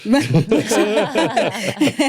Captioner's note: all laughing